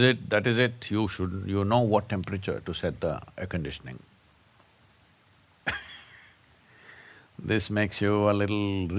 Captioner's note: laughs